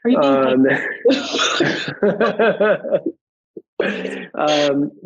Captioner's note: panelists laughing